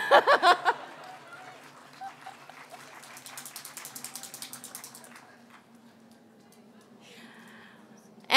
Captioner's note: laughter and applause